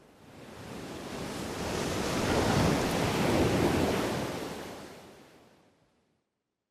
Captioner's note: waves splashing